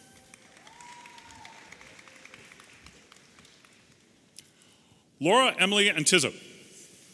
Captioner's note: audience applauding and cheering